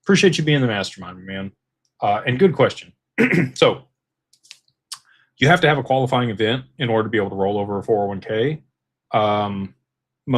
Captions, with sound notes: Appreciate you being in the mastermind, man. and good question. [clears throat] So, you have to have a qualifying event in order to be able to roll over a 401k.